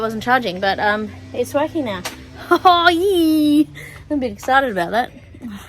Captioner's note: excitedly; scoffs and laughs